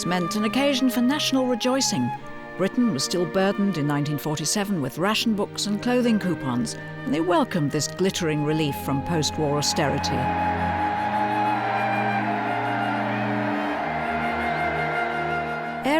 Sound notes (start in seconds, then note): 9.6 crowd cheering; 12.7 gentle music